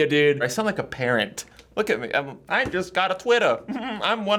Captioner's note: giggles